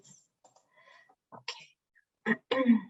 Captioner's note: clears throat